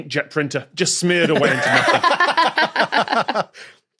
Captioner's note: guests laugh heartily